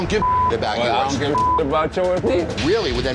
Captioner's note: beep